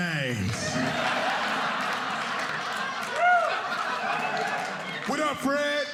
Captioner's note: audience laughing